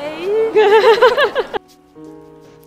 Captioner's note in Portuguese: Risos